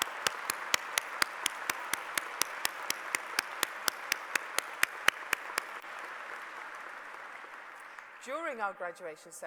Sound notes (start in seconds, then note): 2.7 applause